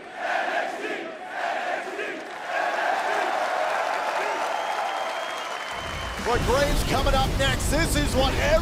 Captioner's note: fans chanting